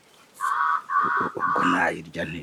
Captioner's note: Cri d'un corbeau